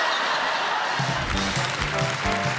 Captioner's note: laughter; applause